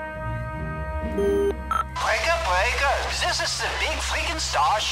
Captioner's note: voice On Radio